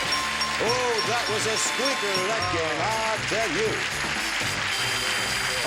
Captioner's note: bell dinging; audience applause